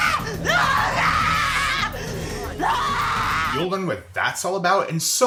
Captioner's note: woman screaming